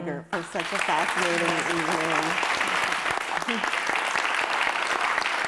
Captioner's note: audience applauding